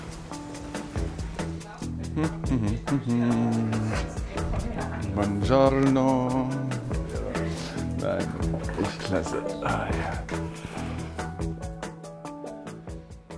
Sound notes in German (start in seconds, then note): 2.3 Er summt fröhlich; 11.3 Musik wird leiser